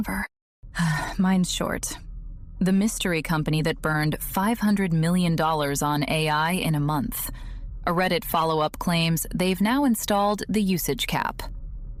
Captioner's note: sighs